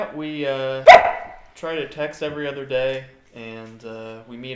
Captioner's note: Emma barks